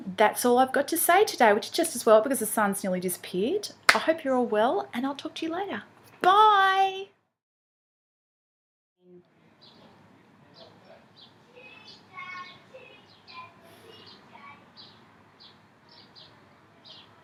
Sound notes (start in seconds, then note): 11.4 kids in background